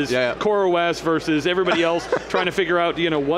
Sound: laughs

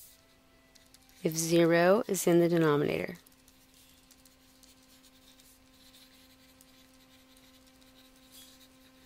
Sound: pause in Lecture

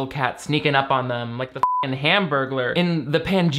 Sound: beep

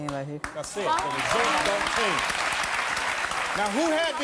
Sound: audience applause

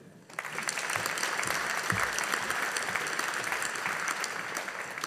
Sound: audience applauding

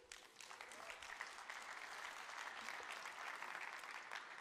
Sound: audience applauds

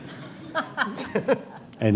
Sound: laughter

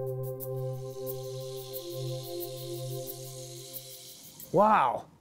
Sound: chemicals hissing

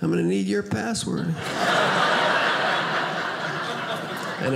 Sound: audience laughing

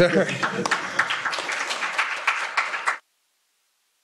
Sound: applause

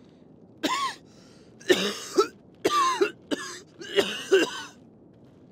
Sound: coughing

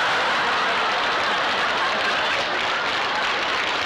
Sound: applause; laughter

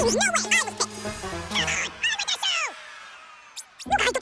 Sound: speaking fast forward

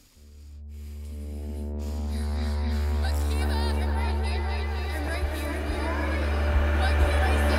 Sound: heavy breathing

